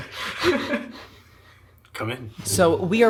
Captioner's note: laughter